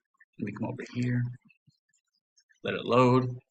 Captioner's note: silence; silence